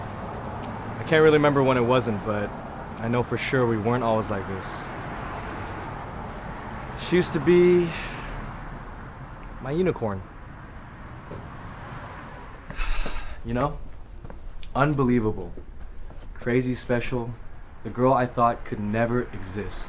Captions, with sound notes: I can't really remember when it wasn't, but... I know for sure we weren't always like this She used to be... my unicorn *exhales sharply* You know? Unbelievable... Crazy special... the girl I thought could never exist...